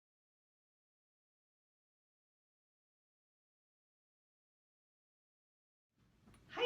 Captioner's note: silence